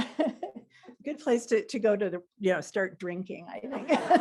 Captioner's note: laughter